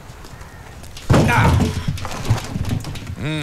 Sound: sighs

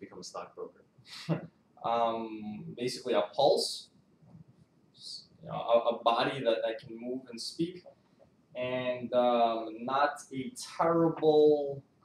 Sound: laughs

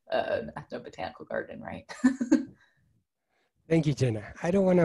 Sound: giggles

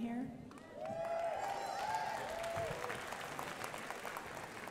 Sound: crowd applauding

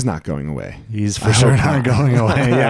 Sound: laughing

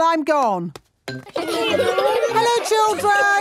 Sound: laughter

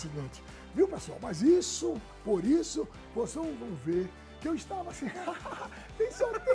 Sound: laughs

